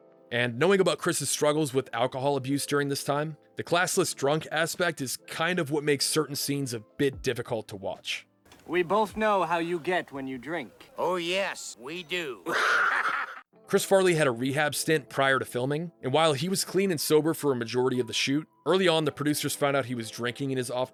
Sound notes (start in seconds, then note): 11.9 laughs